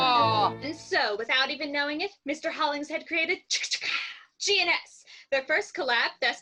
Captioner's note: verbal fanfare